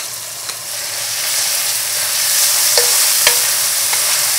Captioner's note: sizzling